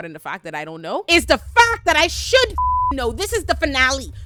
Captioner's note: beep